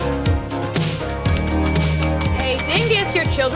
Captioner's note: upbeat exciting music; bell dinging